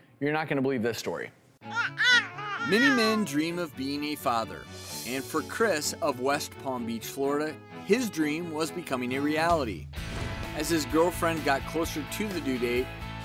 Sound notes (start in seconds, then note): 1.6 baby crying